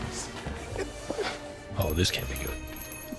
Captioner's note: doorbell jingles